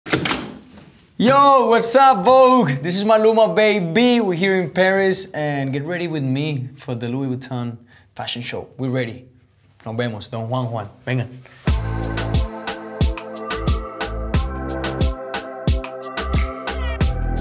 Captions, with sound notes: - Yo, what's up, Vogue? This is Maluma, baby! We're here in Paris. And get ready with me for the Louis Vuitton Fashion Show. We're ready. Nos vemos! [speaks Spanish] [upbeat music playing]